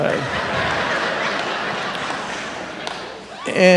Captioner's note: laughter